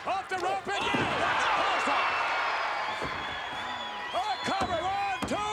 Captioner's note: spectators cheering